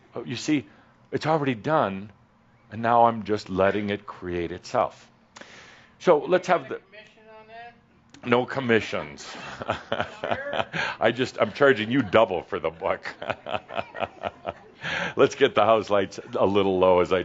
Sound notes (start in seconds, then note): 8.9 Adamus chuckles; 13.4 more chuckles